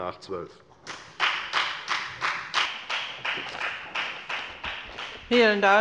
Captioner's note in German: Beifall bei der FDP